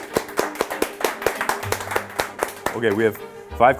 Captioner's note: all clapping